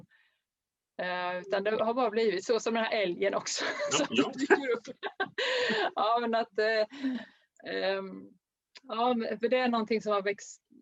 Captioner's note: Skratt